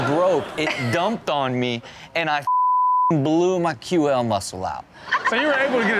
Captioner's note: beep